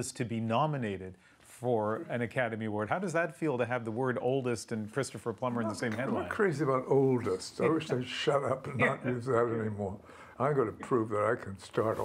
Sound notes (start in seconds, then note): none